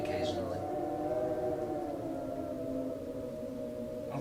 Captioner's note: wind howls